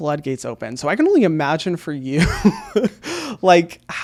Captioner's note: laughs